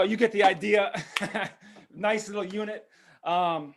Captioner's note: laughs